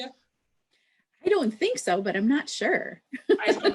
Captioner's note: laughs